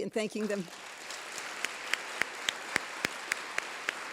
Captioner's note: applause